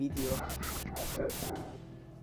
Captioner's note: again static noise and whisper with a weird mouth